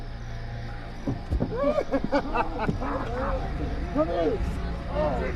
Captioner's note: laughter continues